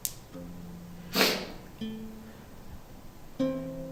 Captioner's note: sniffs